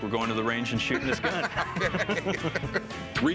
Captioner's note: laughter